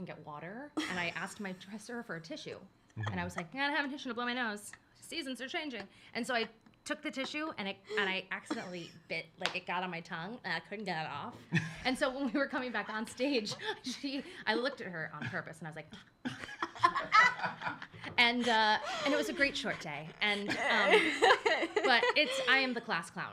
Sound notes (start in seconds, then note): 16.2 laughs